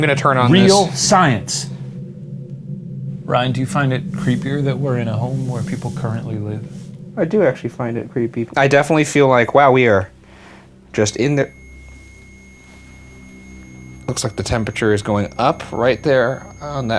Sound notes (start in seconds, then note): 10.9 REM-Pod beeping